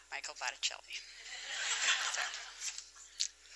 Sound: laughter

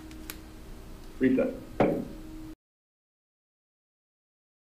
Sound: gavel thudding

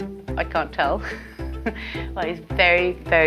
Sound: laughs

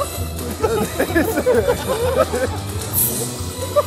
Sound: laughter

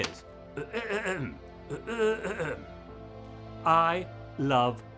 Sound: clears throat

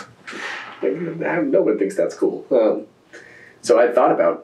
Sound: laughs

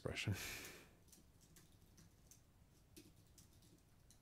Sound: sighs

